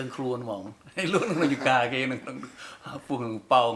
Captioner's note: laughs